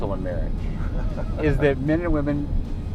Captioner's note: laughing